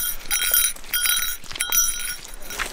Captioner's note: bell ringing